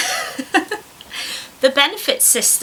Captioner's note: laughs